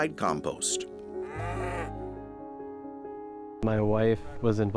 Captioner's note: cow mooing